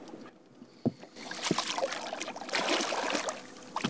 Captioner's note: splash